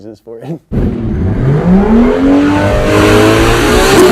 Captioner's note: engine revving